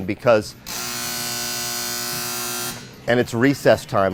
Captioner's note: beeping sound